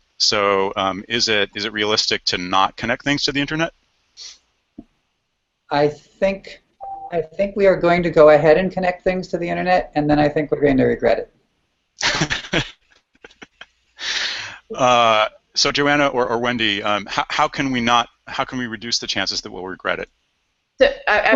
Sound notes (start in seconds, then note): 12.0 laughing